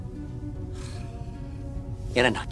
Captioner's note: Russell sighs